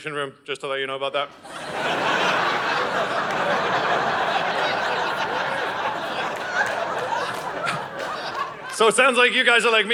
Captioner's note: audience laughing